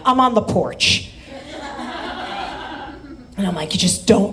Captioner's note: audience laughs